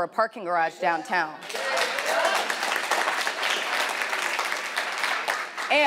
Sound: audience applauding

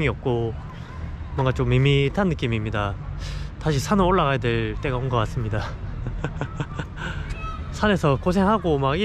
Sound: laughing

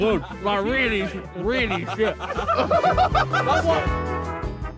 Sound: all laughing

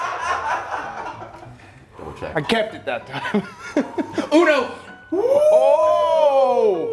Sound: laugh; laugh

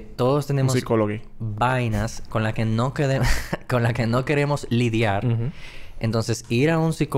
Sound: laughs

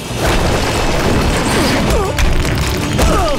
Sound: grunting

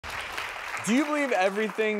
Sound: applause

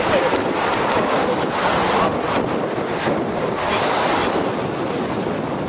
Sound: water rushing loudly

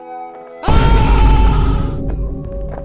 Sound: screaming

